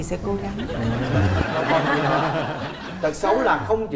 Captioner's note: laughing